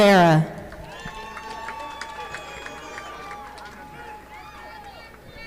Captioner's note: audience applauding